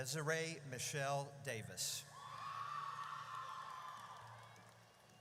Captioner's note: audience cheers